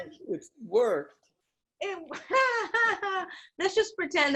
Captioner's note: giggling